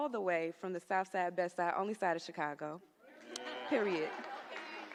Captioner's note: laughter